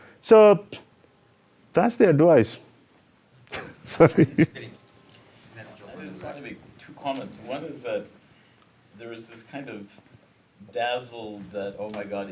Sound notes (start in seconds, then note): 3.5 laughing